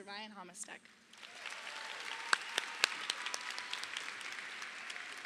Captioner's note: crowd applauds